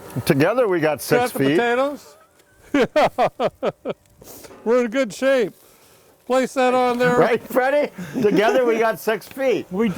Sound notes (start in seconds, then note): 2.6 laughing